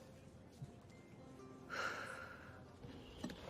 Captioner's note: exhales